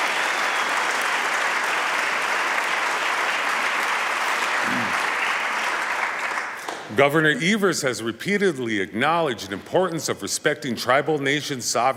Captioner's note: applause